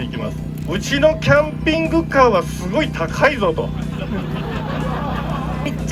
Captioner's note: laughs